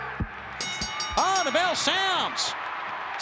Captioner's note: bell rings